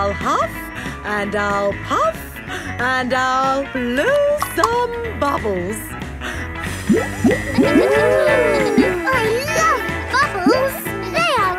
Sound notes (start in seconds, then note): 8.2 kids gasping and laughing